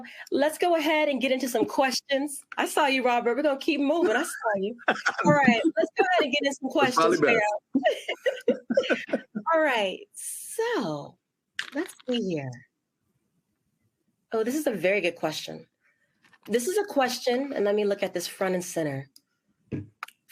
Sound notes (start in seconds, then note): 4.0 laughs; 7.7 laughter